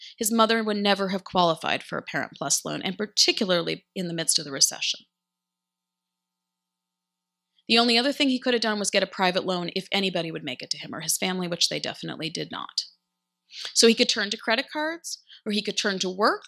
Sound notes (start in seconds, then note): none